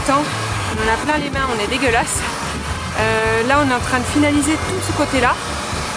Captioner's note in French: rire